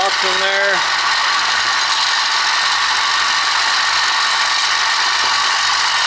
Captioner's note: motors running and vibrating